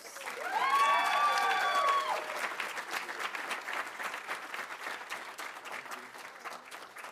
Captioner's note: audience applauding; audience cheering